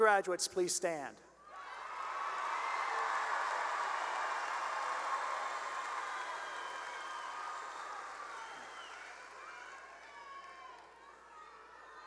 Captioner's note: cheering and applause